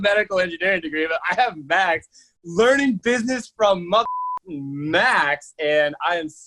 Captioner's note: beep